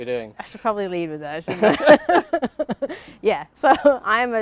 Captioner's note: they laugh